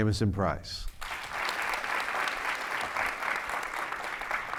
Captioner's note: audience clapping